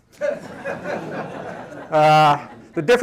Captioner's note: laughter